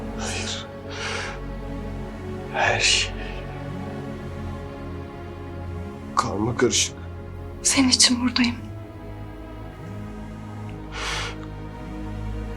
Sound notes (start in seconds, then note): 0.0 sighs; 10.7 deep breath